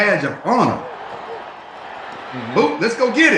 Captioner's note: crowd cheering